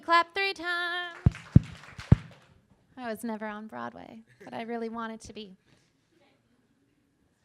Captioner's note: clapping